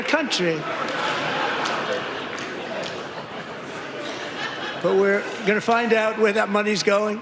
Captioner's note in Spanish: aplausos